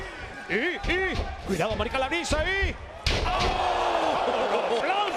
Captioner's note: laugh